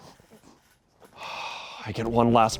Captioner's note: crew laughs; sighs